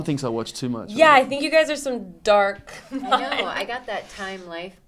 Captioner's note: laughs